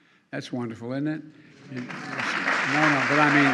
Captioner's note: applause